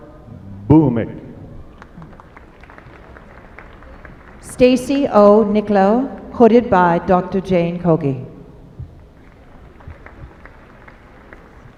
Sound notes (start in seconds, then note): 1.7 applause